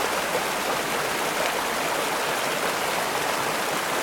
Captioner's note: sound of rushing, turbulent water accompanies slow motion video